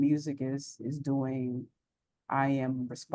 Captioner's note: none